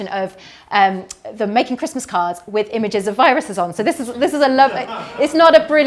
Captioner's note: chuckles